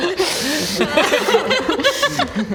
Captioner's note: flirtatious laughter